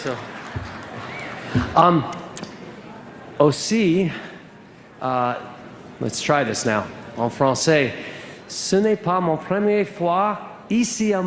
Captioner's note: applause